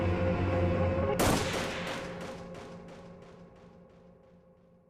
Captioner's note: guns firing